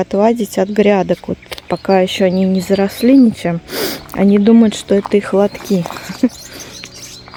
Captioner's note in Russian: фыркает